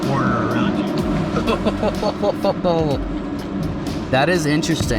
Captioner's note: laughing